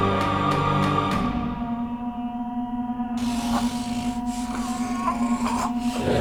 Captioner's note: Man in the Fields calling